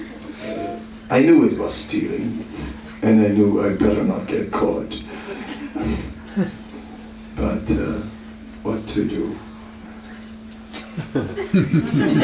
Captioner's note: laughter